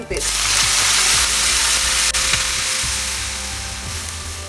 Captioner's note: mixture sizzles